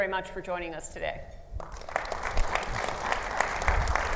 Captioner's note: audience applauds